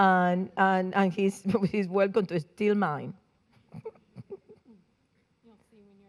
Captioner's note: giggles